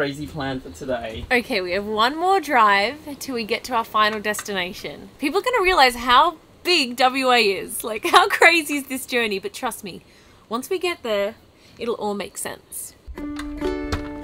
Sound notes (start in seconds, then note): 8.4 laughing; 13.9 door latching